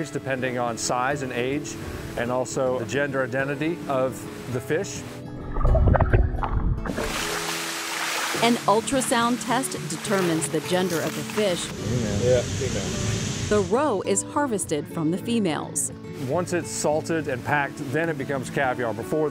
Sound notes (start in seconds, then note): 5.3 water splashing